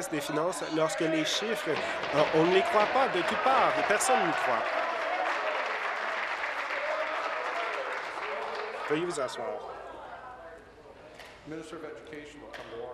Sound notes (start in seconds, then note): 7.6 applause